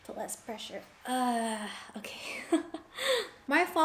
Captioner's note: laughs